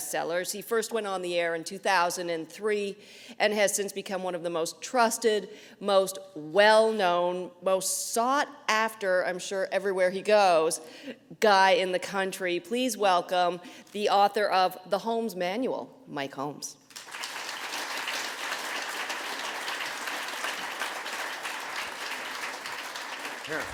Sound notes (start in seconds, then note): 16.8 applause